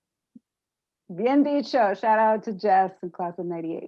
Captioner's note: spanish